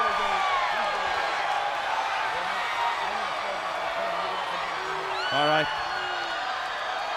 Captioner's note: crowd chatter; crowd cheering